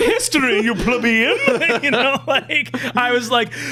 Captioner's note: laughing